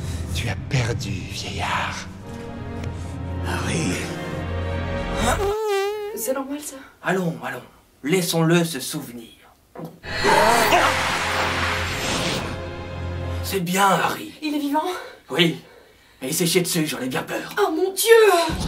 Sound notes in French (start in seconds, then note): 0.1 Voix de Voldemort; 5.3 bruit de pet